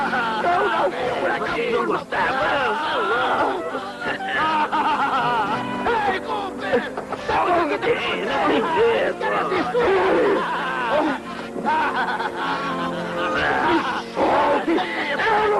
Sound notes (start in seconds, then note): 3.2 laughing and shouting; 9.8 laughing; 12.1 all shouting at once